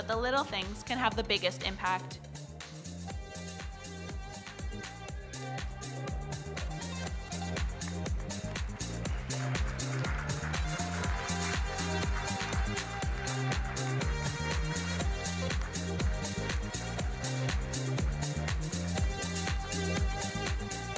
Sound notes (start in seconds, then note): 3.5 upbeat music; 8.3 audience applauding; 15.1 upbeat music